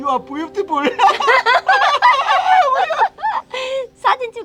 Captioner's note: both laughing